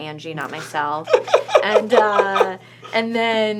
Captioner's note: laughs